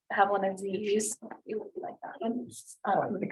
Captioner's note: chatter